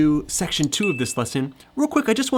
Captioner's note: mouse clicking; bell chiming